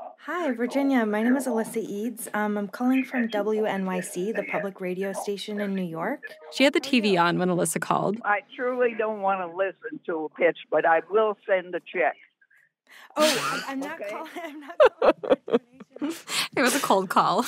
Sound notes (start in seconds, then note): 13.2 laughs